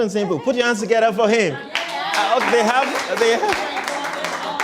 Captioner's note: applause